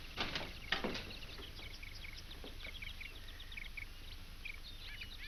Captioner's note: birds chirp